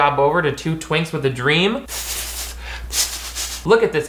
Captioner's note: hissing